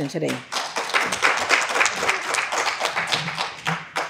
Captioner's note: applause